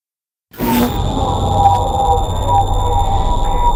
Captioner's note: droning